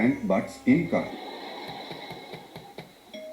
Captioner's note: knocks on front door; doorbell